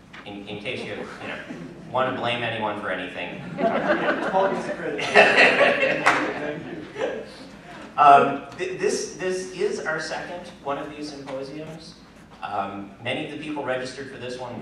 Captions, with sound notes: In case, you know, you want to blame anyone for anything. (LAUGHTER) >> Paul gets the credit. (LAUGHTER) >> Thank you. >> This is our second one these symposiums. Many of the people registered for this one